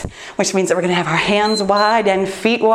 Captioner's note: timer beeps